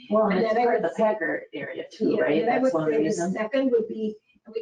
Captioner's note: speaking faintly